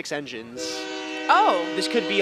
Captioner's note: horn blows